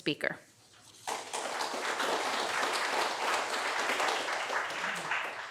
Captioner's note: applause